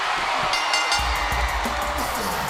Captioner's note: bell ringing